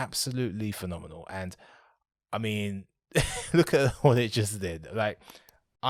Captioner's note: laughs